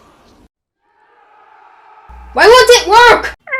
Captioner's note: angry mob:AUAGHAUAGHAUGAHUAG